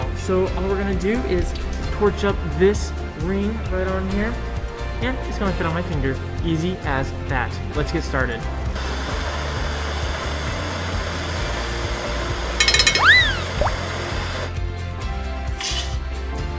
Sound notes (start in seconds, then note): 8.8 torch hissing; 9.1 upbeat music; 12.6 cowbell; 13.0 water splash